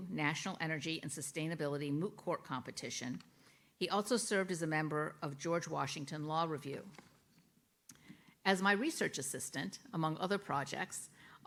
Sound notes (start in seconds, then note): none